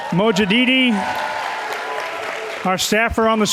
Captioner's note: cheers and clapping